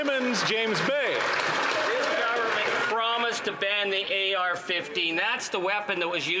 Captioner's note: some Applause